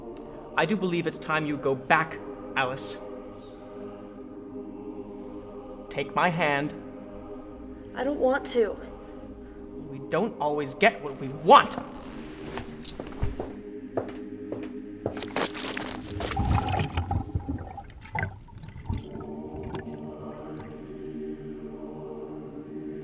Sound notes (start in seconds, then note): 15.3 splash; 18.5 choral music